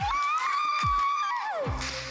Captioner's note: cheering